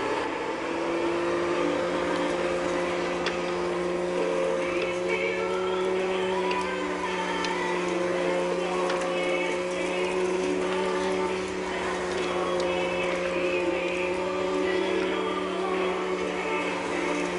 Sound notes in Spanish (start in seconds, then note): 1.0 Sonido de la aspiradora